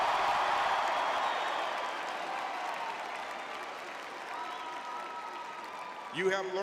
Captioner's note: audience cheering